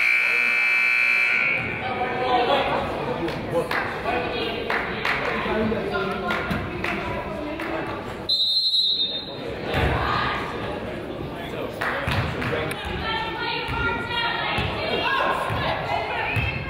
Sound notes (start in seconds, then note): 0.0 buzzer honks; 4.6 person claps; 8.3 whistle blows; 11.8 person claps